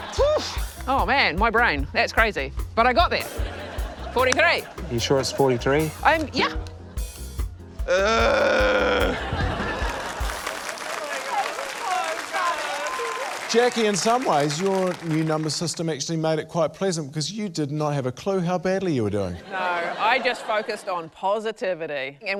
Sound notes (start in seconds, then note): 0.1 exhales; 3.3 laughter; 7.8 groans; 8.7 laughter; 9.7 applause